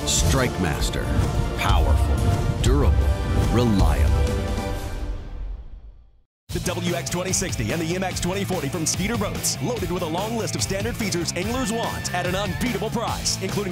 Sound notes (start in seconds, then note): 6.6 voiceover